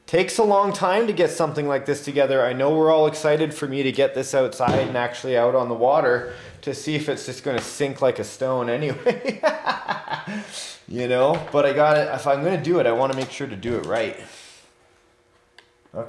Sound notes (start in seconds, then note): 9.1 laughs